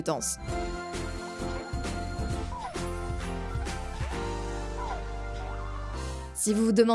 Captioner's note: fighting sounds